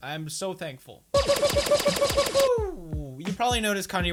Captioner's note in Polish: pew pew pew pew